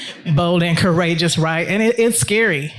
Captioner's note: attendees laughing